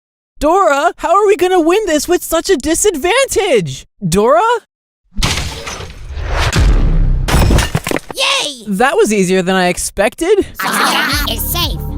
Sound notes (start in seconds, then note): 5.1 bang; 5.2 thump; 7.1 smash